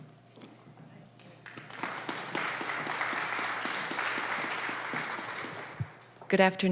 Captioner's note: applause